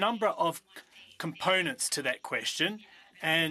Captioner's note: speaking French